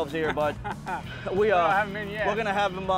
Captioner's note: chuckles